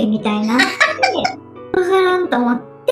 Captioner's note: laughs